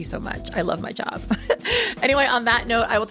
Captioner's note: chuckles